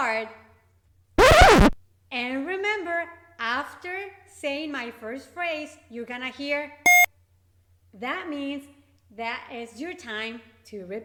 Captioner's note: beep